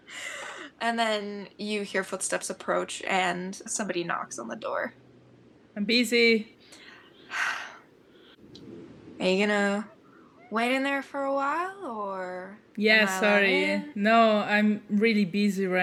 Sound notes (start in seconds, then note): 7.2 sighs